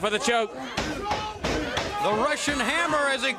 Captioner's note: crowd chatter